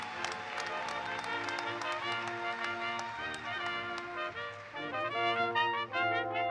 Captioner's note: applause